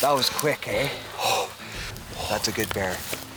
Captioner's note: breathing heavily